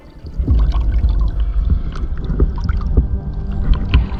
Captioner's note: water gurgling